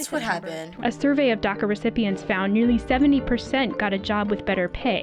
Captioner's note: voice-over